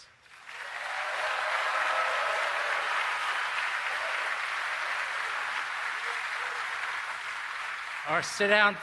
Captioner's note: applause